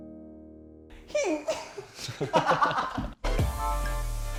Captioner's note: groaning